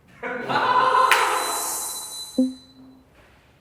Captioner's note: laughs